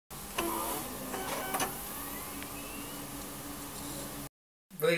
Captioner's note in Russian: Звук включения компьютера